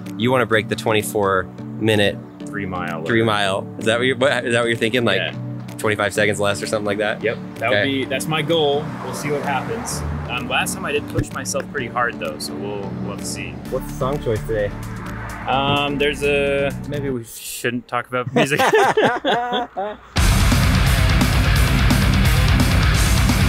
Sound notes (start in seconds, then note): 18.2 both laugh; 20.2 upbeat rock music